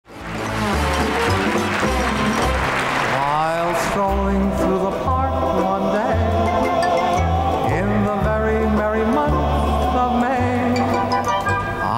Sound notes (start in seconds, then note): 0.1 audience applauding; 2.0 upbeat music